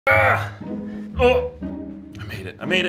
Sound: grunting

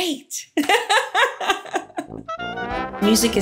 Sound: laughs

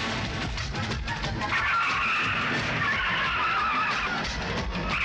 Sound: tires Screeching

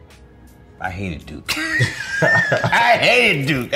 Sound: laughs

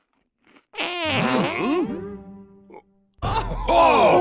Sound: farting sound

